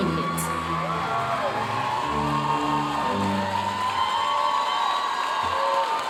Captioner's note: audience cheering and applauding